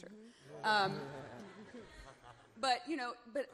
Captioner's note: crowd chuckles